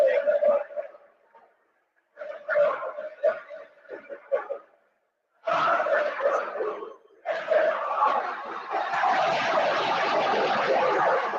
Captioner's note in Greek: Χειροκρότημα